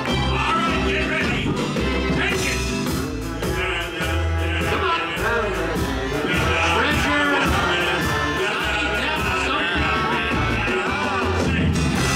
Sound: audience mumbles as they don't know the lyrics, band mocks playfully

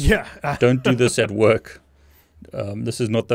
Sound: laughing

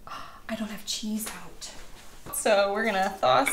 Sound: gasp

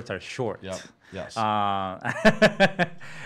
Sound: laughing

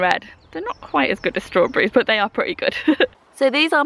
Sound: laughs

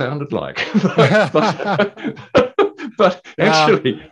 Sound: laughing

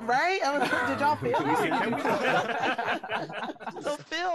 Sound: group laughing

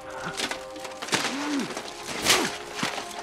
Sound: panting; groans, grunts

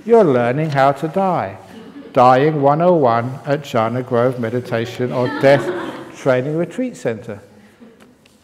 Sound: laughter

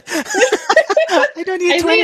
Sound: both laugh

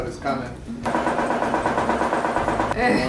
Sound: loud bumping noise

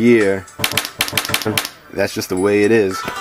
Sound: meterstick whipping sounds

